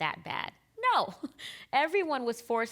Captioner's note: chuckling